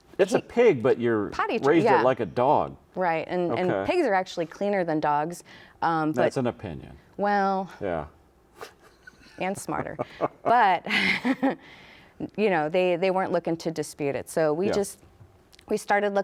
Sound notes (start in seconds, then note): 8.6 laughs